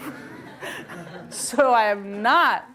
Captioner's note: laughter